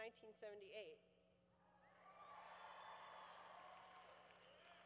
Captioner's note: cheering